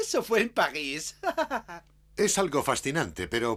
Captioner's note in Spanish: ríe